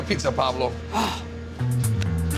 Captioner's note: sighs